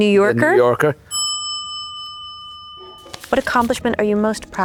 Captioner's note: bell dings